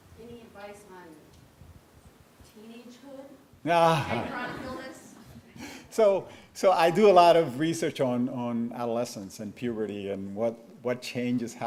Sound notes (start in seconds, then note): 3.8 chuckles